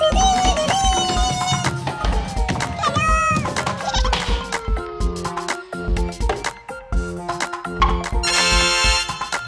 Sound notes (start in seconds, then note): 3.5 Gigglebot laughs; 8.1 tada fanfare